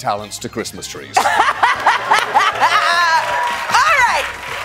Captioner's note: laughing